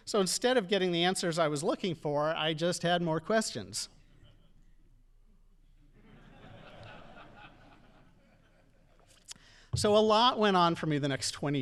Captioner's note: audience laughing